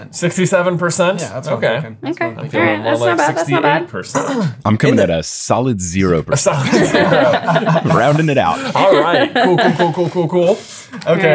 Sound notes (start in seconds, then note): 4.1 clearing his throat; 6.4 everyone laughing